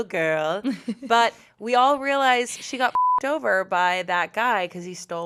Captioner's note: beep